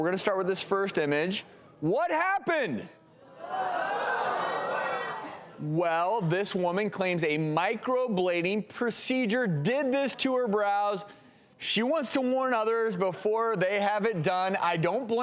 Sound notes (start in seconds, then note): 3.4 audience exclaims